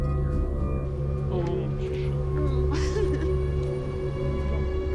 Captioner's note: laughing, chattering